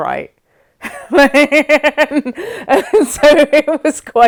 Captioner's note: laughs